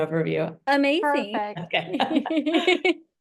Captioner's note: laughter